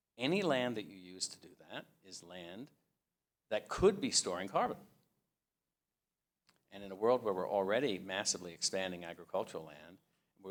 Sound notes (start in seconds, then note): none